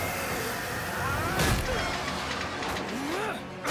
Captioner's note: grunting